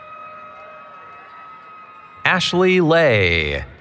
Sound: cheering

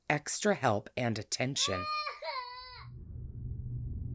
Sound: Luna crying

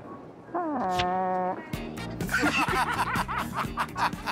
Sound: laughter

